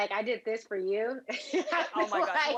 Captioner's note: laughs